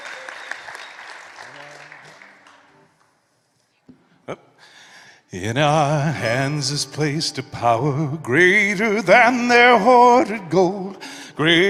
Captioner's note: applause